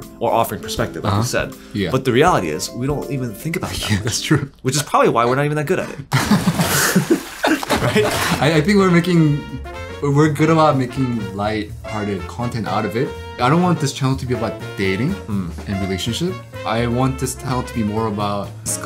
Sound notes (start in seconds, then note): 8.1 laughing